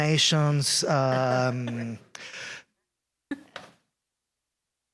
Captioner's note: laughter